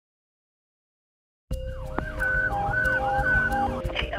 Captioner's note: siren